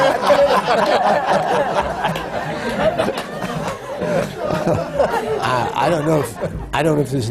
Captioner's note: laughter